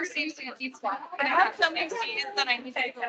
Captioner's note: attendees chattering